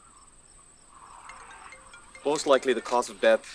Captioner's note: phone rings